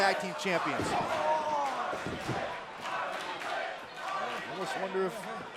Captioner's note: crowd cheering